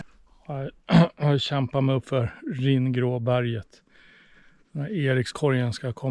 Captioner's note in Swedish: harklar sig